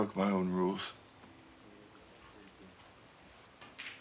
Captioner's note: thunder rumbles